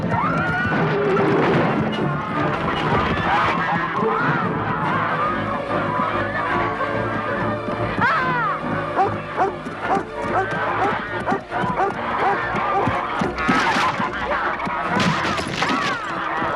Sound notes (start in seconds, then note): 2.8 geese honking; 8.2 Hundra shouts; 9.8 Beast barking; 13.7 beam rattling